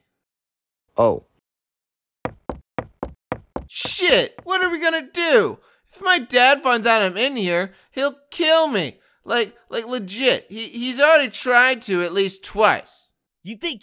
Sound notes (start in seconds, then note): 2.2 footsteps; 8.1 footsteps recede